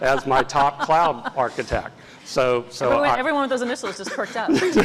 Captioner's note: laugh